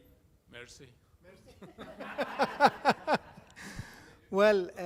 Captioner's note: audience laughing